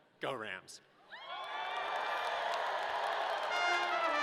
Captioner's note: audience cheering; upbeat marching music